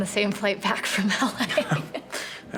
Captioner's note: both laugh